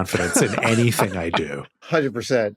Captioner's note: wheezes